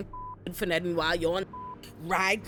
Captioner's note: beep